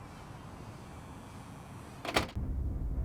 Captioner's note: door closing